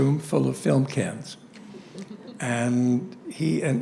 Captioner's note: laughter